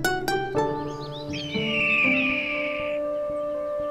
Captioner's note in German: Idyllische Musik; Vogellaute